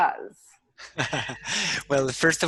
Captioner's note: laughs